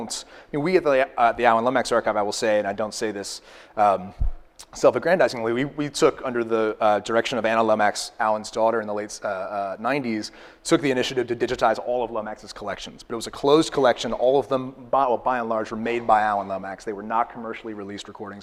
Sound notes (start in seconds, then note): none